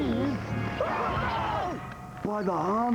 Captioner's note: yelling